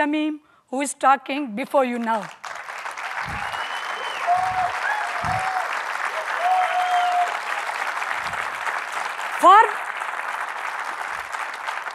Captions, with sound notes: Shamim who is talking before you now. (applause)